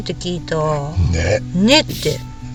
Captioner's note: laughs